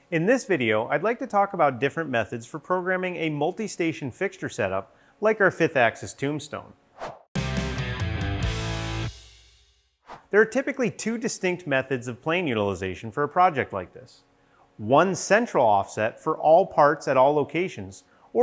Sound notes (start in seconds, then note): 6.9 air whooshing; 7.3 upbeat rock music